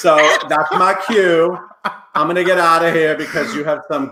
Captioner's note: laughing loudly